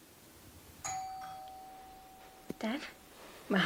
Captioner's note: doorbell rings